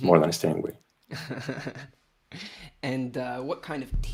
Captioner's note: laughs